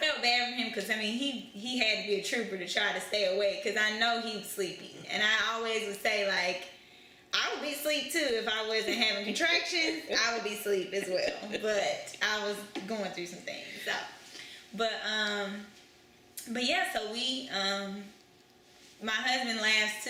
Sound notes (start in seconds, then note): 9.8 laughter